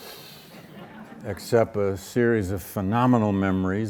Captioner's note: audience laughs